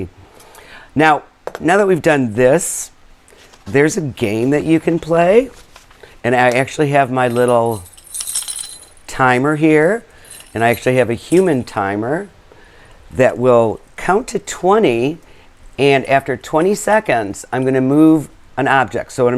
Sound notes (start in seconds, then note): 7.2 bells ringing